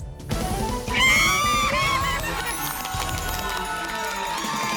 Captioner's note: cheering; applause